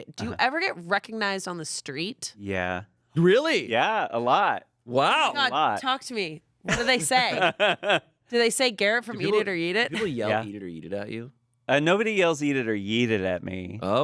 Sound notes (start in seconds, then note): 6.7 laughs